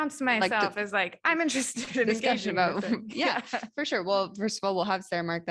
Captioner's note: laughter